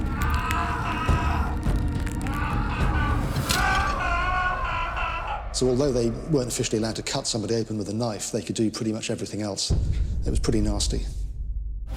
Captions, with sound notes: (cries) (screams) Although they couldn't cut somebody open, they could do pretty much everything else. It was nasty.